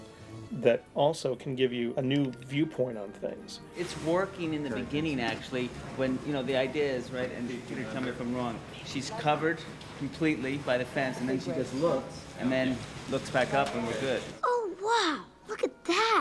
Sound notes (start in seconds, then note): none